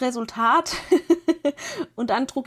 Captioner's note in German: gelächter